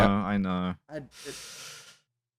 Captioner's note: sucks in a breath